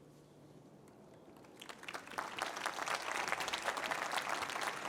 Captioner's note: applause